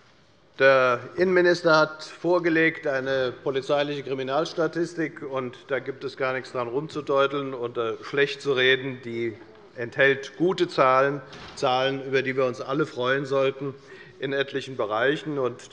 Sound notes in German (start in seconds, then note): none